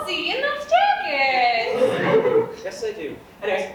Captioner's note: audience laughs